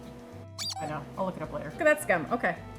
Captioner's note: squeaking noise